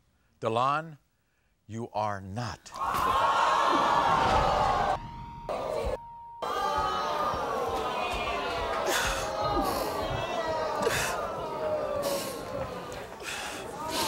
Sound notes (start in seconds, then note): 2.7 audience screaming; 4.9 beeping; 11.9 crying and sniffling